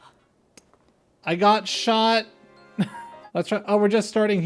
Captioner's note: laugh